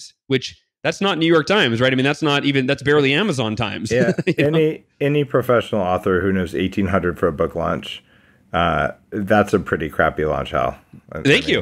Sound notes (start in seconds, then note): 3.8 laughs